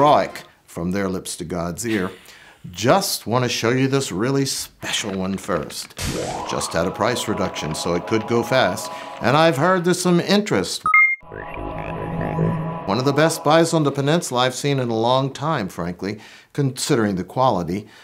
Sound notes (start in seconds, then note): 10.8 space Chatter